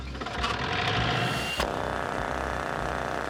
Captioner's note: engine starting; drilling